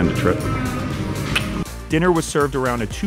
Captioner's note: lips smack